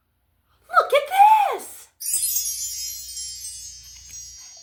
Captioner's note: fairy chimes sound